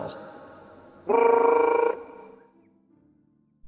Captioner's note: whistle